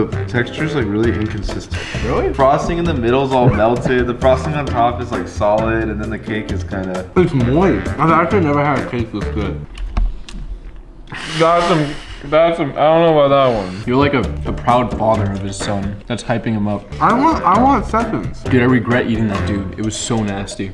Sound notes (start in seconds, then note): 9.0 chuckles